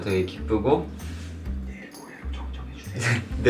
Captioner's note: whisper